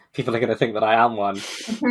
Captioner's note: laughs; laughing